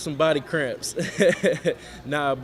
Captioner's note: laughs